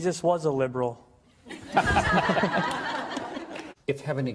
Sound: laughter

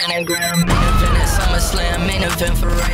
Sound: cool explosion

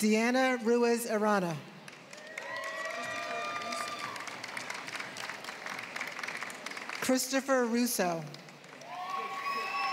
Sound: applause

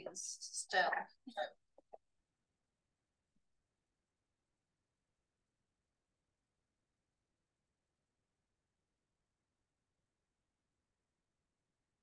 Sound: chatter

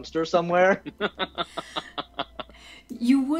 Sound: laughs

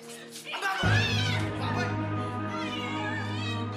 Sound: screams; sobbing

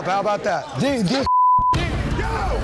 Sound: beep

